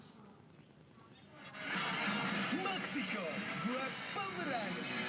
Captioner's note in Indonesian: suara tv